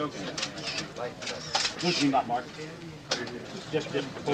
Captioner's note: cameras clicking